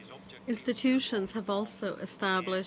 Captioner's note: speaking French